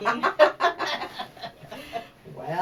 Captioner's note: laughs